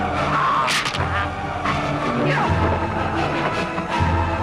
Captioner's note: raider choking; neck snaps